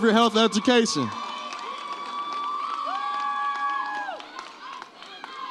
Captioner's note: audience cheers